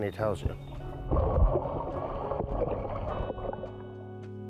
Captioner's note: water splashes